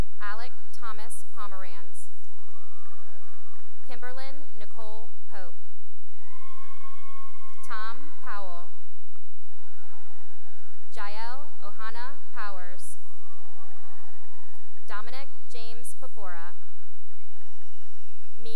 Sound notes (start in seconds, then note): 2.1 cheering and applause; 6.0 cheering; 8.6 cheering and applause; 12.8 cheering and applause; 16.6 cheering and applause